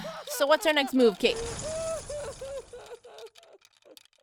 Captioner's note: sighs; bat sounds and hysterical laughter/crying dies down